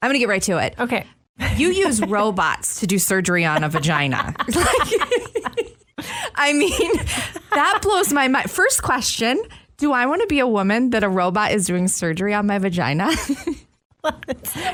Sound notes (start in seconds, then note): 3.5 laughs